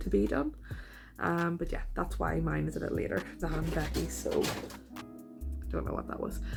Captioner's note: loud rustling